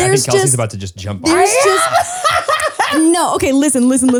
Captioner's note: laughs